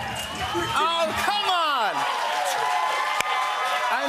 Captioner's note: cheers and applause